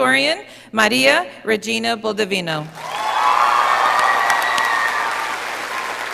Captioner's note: audience applauding